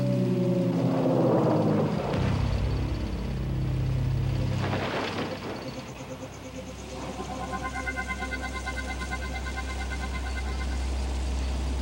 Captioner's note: sound of tractor and falling debris